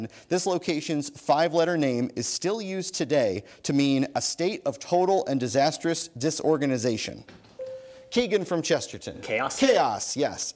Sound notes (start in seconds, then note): 7.6 bell dings